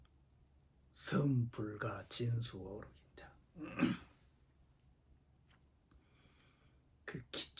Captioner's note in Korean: 목을 가다듬음